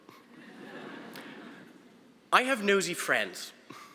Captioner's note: audience laughing